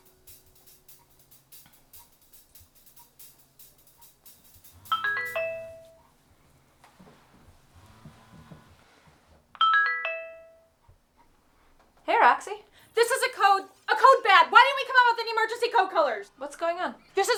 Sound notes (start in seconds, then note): 4.8 phone rings